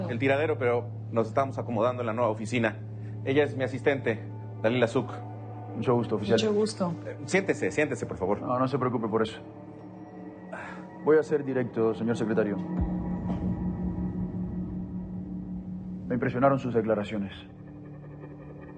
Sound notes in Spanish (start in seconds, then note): none